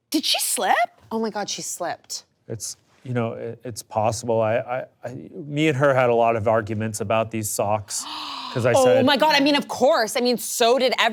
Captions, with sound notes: did she slip? - Oh my God, she slipped. - It's, you know, it's possible. I... Me and her had a lot of arguments about these socks. (person gasping) - 'Cause I said... - Oh my god. I mean, of course.